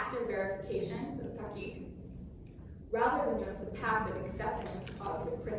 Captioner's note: non-english speech